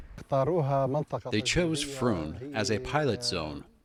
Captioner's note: through translator